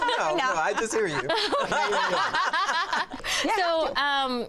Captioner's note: laughter